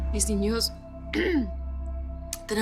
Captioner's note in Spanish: Carraspea